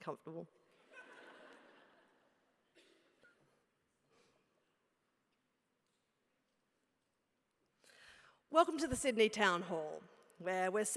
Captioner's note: laugh